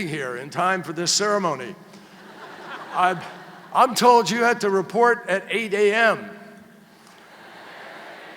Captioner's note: laughter